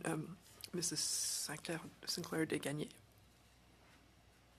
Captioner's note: speaking French